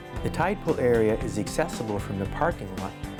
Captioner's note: voiceover